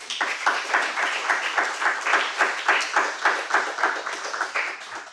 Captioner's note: audience applauding